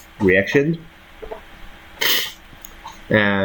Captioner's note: sneezes